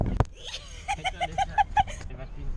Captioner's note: laughs